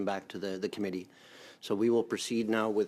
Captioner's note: speaking in French